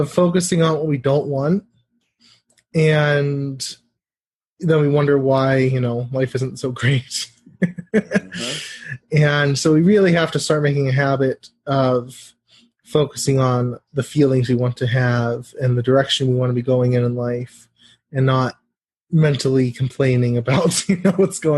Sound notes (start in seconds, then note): 7.6 laugh